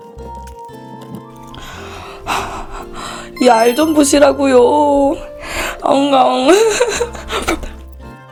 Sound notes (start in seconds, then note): 5.8 crying with joy